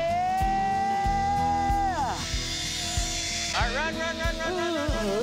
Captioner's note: line buzzing